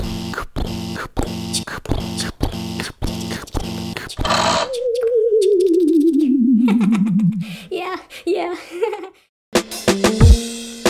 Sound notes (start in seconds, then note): 0.0 pounding footsteps; 4.1 click; 4.2 powering down